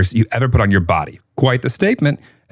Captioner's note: none